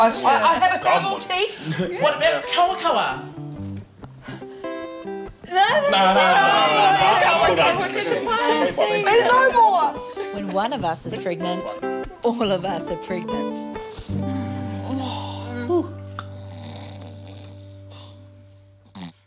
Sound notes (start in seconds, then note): 10.5 voiceover; 13.8 sighing; 16.1 snoring